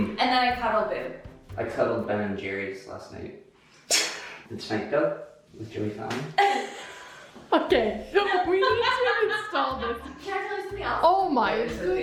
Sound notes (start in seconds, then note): 7.0 laughs